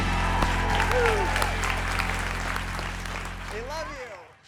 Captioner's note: applause